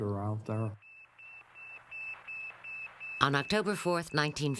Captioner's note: beeping